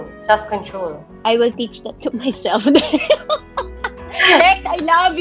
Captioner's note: laughs